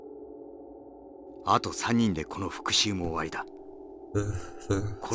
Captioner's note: speaking in-game